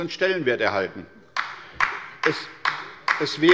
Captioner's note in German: Beifall bei der LINKEN